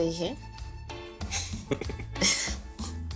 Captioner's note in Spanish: El ríe